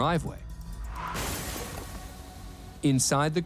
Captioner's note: tires screech, glass shatters